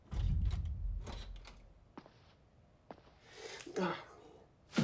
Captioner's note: footsteps approach; doorknob clacks